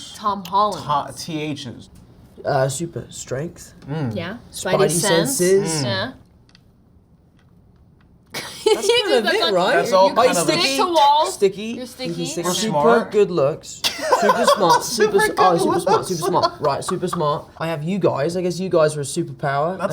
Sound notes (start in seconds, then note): 8.4 Zendaya laughs; 12.0 laughs